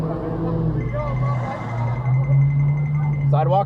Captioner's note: tiptoe sounds